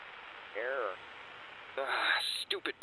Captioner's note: Static